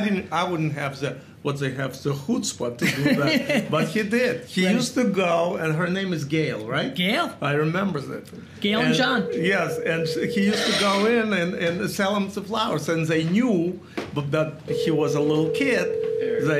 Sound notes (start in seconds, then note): 2.8 Gary laughs; 8.7 phone ringing